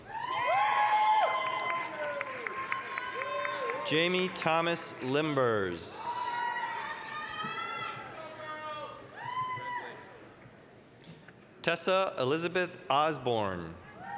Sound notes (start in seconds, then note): 0.0 applause, cheering; 6.1 applause, cheering